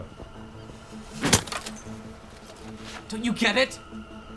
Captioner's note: stick clatters